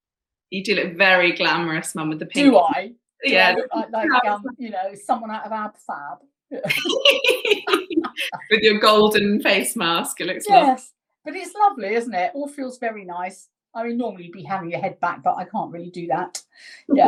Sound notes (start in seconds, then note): 6.6 both laughing